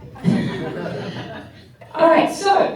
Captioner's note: laughter